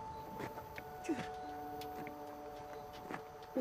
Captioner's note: Mark crying; wind gushing